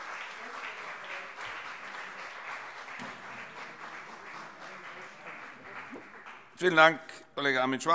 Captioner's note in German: Beifall CDU und BÜNDNIS 90/DIE GRÜNEN